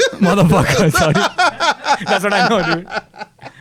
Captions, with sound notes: - Motherfuckers, that's what I know dude. (laughs)